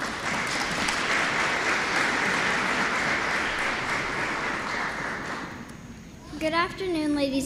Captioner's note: applause